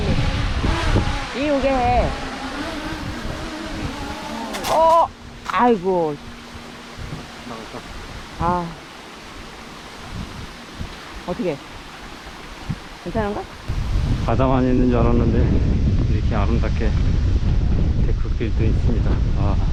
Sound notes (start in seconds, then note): 1.3 drone